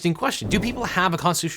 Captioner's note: air whooshing